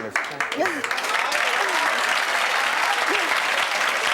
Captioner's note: clapping